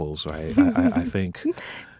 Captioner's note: laughing